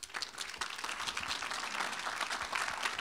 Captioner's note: applause